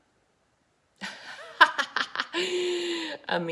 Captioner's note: laughs